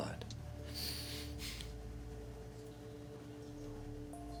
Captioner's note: sniffing